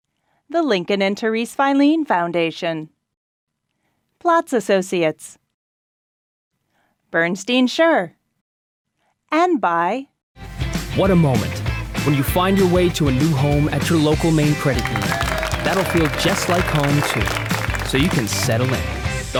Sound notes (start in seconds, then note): 13.9 applause